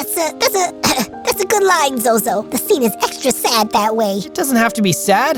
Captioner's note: cough